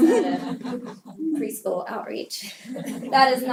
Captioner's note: laugh